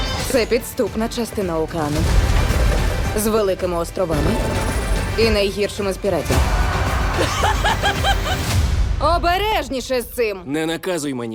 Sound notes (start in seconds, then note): 6.2 all shouting; 6.9 laughing